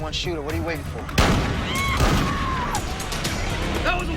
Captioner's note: nearby gun fires, woman screams